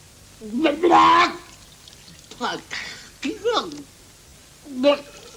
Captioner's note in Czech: klokotavé zvuky